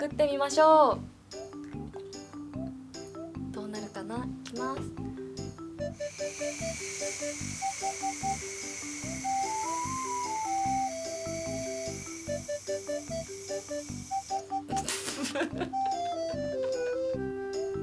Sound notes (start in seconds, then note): 9.2 blowing sound; 9.2 laughter